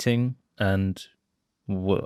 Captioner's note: none